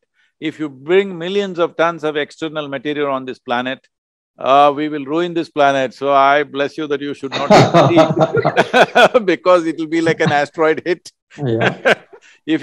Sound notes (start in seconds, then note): 7.3 laughter